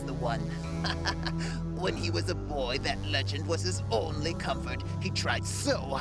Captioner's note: laughs